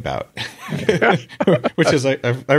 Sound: both laugh

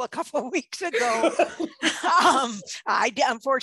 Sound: laughing

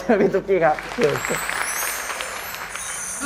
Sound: applause

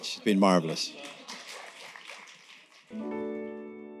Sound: applause

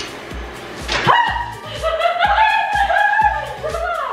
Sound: yelling

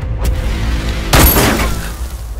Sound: gunshot

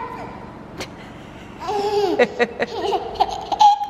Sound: giggles

